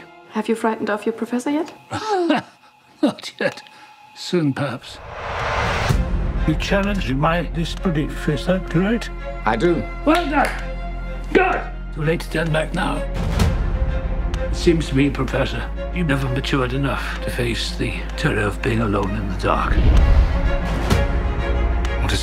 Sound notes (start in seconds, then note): 2.1 laughing; 5.0 tense music; 10.1 clapping; 13.2 tense music; 19.9 tense music